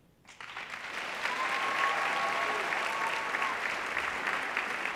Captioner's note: audience applauding